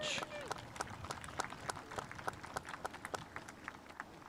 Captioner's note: spectators applauding